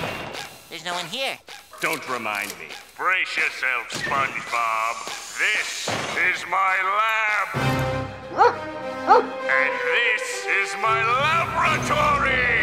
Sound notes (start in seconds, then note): 8.3 barking